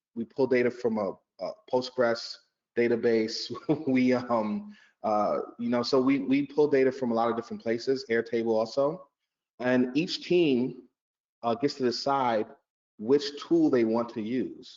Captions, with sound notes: we pull data from a Postgres database. (laughs) We, you know, so we pull data from a lot of different places, Airtable also. And each team gets to decide which tool they want to use.